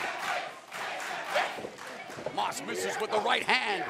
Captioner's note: crowd cheering